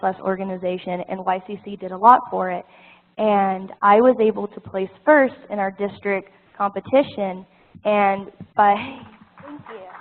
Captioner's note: applause